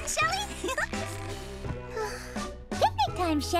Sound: giggling; sighs

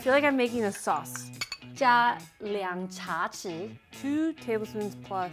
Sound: speaking in mandarin

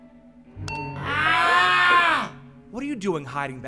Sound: screams of pain

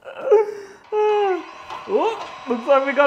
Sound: printer starts again

